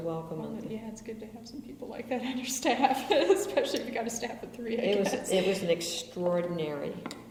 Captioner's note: laughs